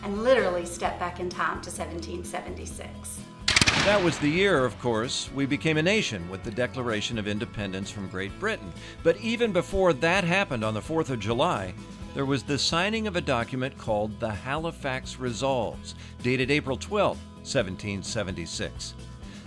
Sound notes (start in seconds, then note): 3.4 guns fire